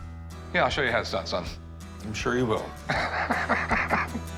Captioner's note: chuckles